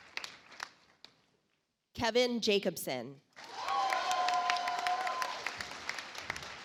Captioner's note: audience applauds